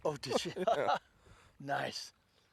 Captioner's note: laughter